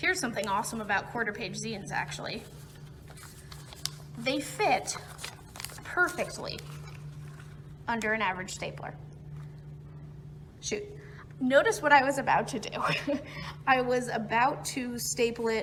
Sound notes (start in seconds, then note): 12.8 chuckles